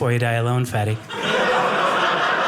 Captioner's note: audience laughing